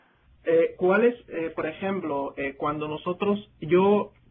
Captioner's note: speaking in Spanish